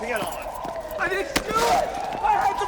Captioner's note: siren